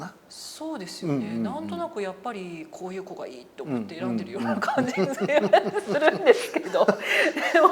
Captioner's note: laugh